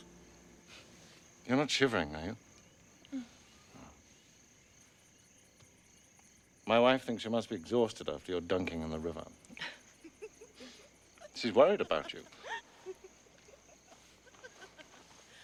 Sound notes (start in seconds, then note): 9.5 fiona laughing; 12.6 laughing